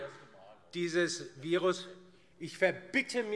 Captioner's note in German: Unruhe auf der Regierungsbank